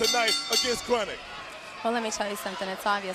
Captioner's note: bell rings